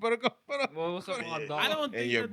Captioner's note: speaking Spanish